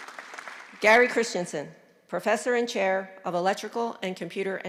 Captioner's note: applause